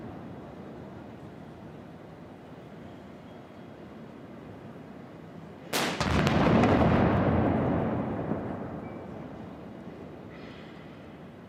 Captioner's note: 21-gun salute